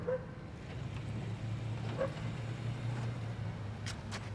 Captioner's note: dog barking